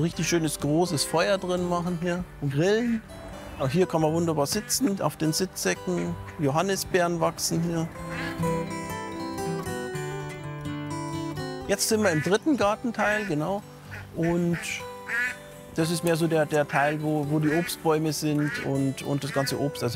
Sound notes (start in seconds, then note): 8.6 soft music; 12.9 duck quacks